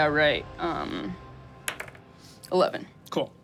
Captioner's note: dice rolling